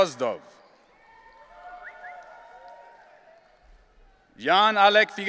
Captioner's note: audience cheering